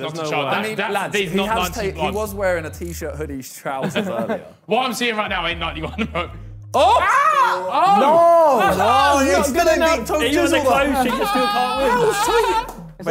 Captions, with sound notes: - Not a chance - He was wearing a t-shirt, hoodie, trousers though. - What I'm seeing right now? - No! (group clamours)